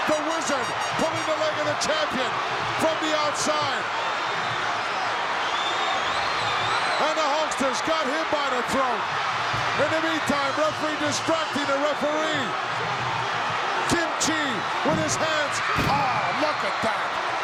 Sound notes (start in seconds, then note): 3.8 audience cheering